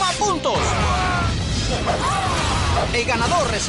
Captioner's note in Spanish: efectos de sonido de Power Rangers